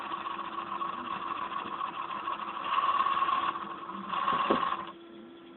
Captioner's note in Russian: дребезг